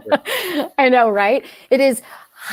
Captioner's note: laughter